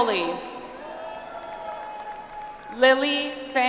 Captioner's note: audience applauds